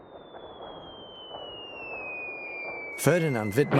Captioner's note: whistling